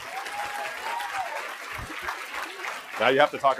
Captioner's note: applause